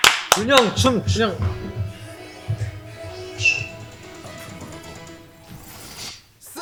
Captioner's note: the faint sound of a bandage